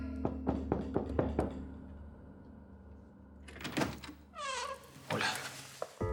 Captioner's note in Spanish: Toques en la puerta